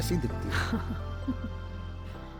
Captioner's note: laughs